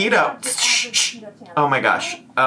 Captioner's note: shushes